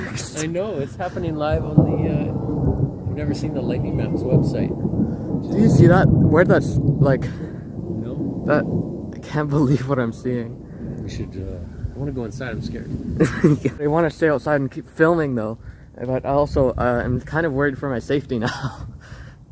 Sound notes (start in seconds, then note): 0.0 thunder rumbles and echoes; 3.3 thunder rumbles and echoes; 7.2 thunder rumbles and echoes; 9.6 thunder rumbles and echoes; 12.4 thunder rumbles and echoes; 13.2 laughs; 13.5 thunder rumbles and echoes